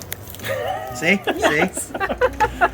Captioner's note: laughing